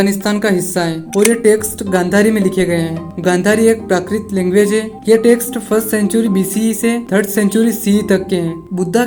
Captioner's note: prakrit language